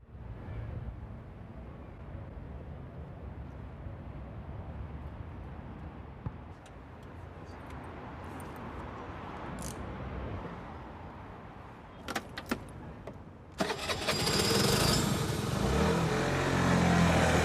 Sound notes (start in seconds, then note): 13.6 engine starts